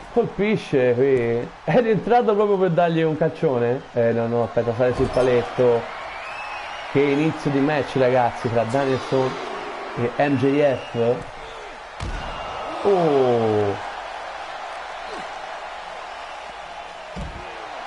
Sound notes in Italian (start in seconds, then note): 12.2 Applauso